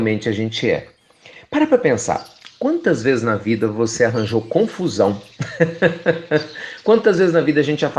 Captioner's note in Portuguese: Risos